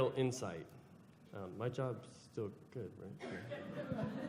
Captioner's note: laughter